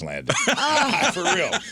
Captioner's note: laughing